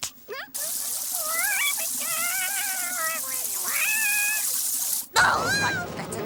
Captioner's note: water rushing and mice singing